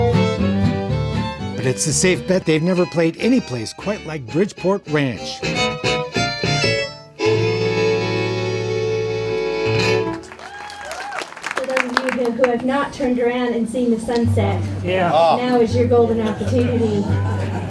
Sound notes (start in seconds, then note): 10.1 fans clapping